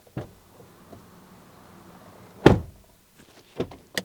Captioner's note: XUV 400 Door Thud; Nexon EV Max Door Thud